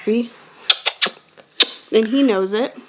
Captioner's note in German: schmatzend